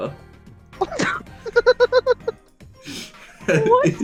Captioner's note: laughter